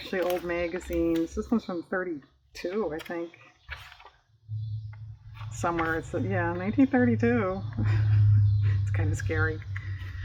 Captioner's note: laughs